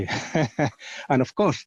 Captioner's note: laughs